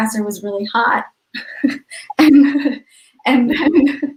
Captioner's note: laughing